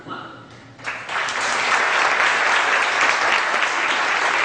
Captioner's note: audience applause